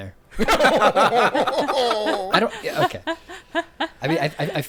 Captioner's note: laughing